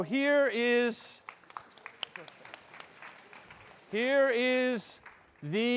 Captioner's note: audience clapping